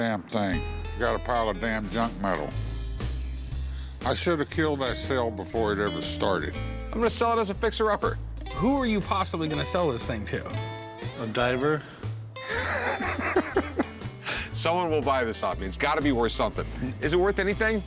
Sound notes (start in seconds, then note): 12.4 laughs